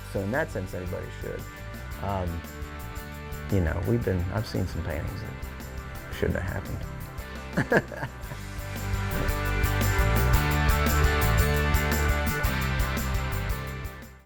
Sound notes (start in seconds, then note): 7.5 laughs; 8.9 upbeat music